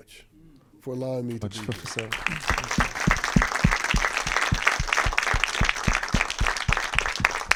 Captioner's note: audience applauding